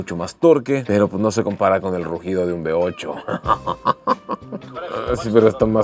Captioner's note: laughter